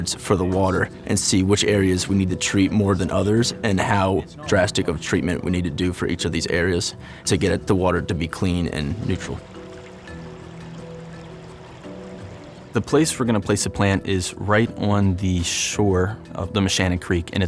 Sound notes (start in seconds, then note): 9.3 water trickling